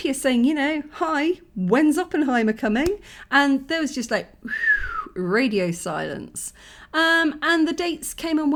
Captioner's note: whistles